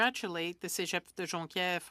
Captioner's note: speaking French